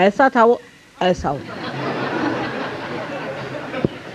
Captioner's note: yogis laugh